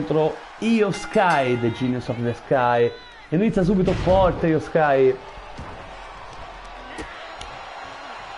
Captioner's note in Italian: Applauso